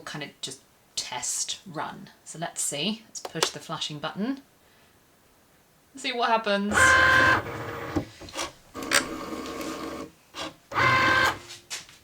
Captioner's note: machine gears whirring